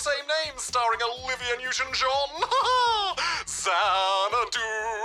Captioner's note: laughs